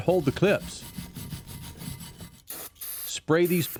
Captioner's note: brush scraping